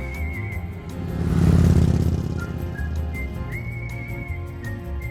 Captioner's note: motor cycle motor revving; upbeat music